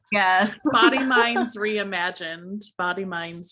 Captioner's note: laughing